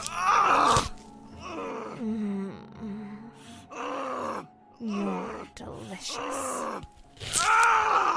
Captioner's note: cry of agony